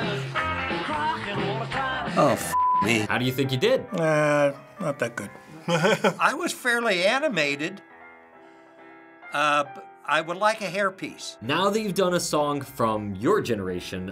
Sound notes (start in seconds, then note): 5.5 laughs